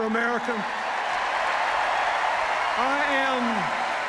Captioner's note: cheers, applause